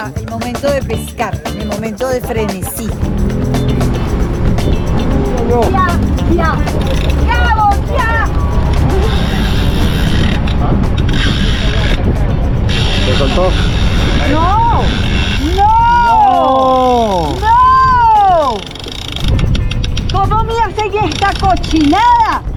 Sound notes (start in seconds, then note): 3.0 boat sounds; 8.3 fishing sounds